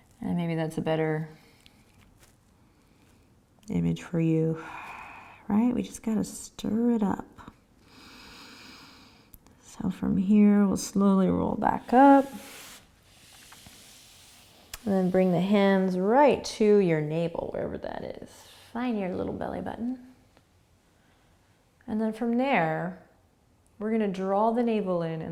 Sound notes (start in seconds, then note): 4.6 exhaling; 7.9 inhaling